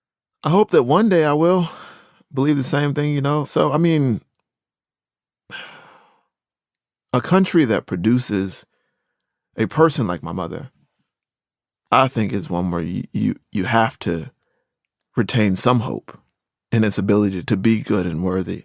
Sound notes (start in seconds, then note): 5.0 breathes